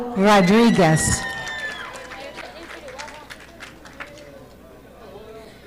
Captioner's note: audience applauding